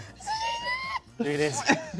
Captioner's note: squeals